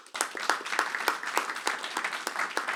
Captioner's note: applause